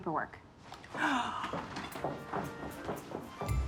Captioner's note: gasping